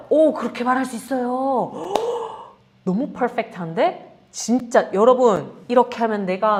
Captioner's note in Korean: 헉 소리